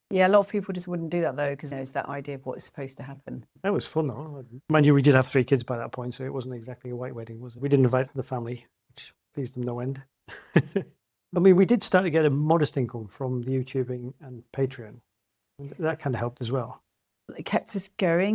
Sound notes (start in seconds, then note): 10.3 laughs